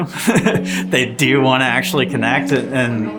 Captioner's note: laughs